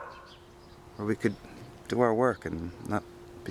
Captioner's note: dogs continue barking